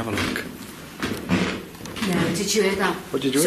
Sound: footsteps

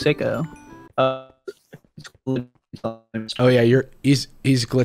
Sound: choppy speech

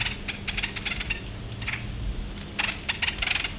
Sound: deer feet crunching on leaves

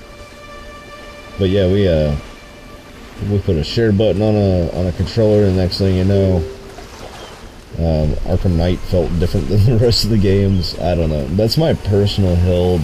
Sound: acidic laughs

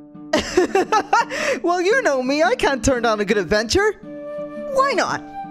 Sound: laughing

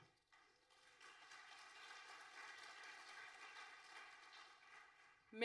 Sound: audience applauding

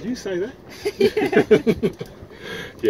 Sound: laughs

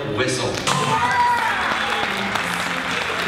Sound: audience cheers and applauding

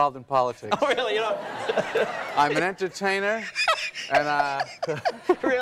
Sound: laughs

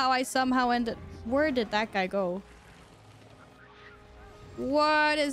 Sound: a low rumble is heard throughout the cavern

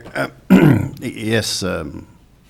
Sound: clearing throat

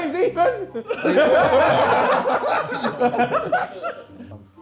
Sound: laughing

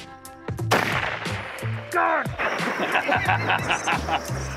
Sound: rifle firing

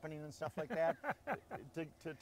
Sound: laughing

